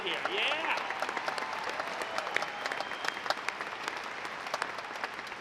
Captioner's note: audience applauds